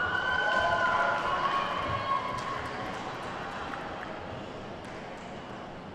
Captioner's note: attendees whooping and clapping